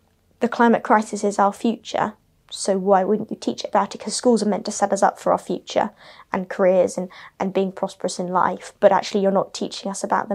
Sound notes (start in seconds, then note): none